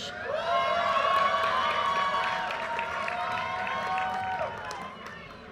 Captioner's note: audience cheers and applause